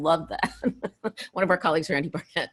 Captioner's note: laughs